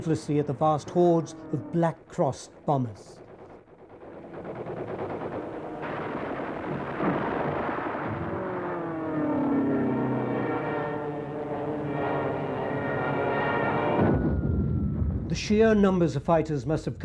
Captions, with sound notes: at the fast hoards of black-crossed bombers. (guns firing) (planes zooming) The sheer numbers of fighters must have come